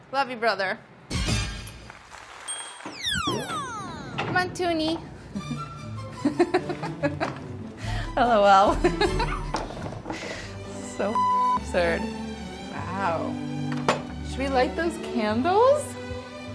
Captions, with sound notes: Love you brother. [clapping] Come on Tunie. [laughs] L-O-L. [laughs] So [beeps] absurd. Wow. Should we light those candles?